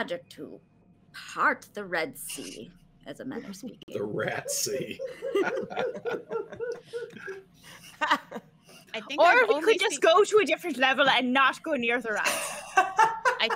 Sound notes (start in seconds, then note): 4.0 all laughing